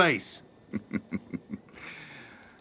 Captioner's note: laughing